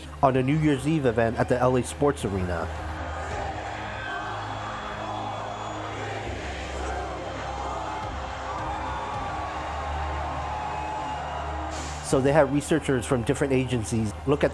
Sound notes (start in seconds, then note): 4.9 crowd; 8.3 cheering